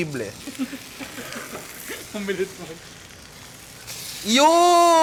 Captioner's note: chuckles